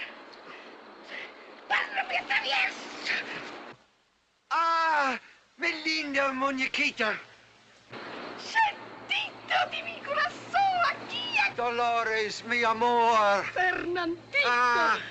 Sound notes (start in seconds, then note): 1.5 shouts in spanish; 4.3 in spanish